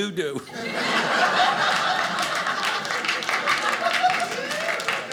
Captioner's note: audience laughing